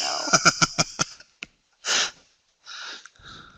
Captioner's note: laughter